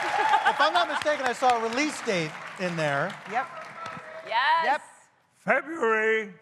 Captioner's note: cheers and applause